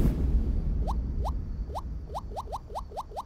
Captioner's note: Mobile screen touch typing